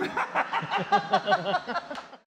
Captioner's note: laughs